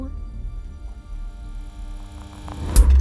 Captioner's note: projector whirring; upbeat music